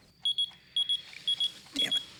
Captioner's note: beeper beeps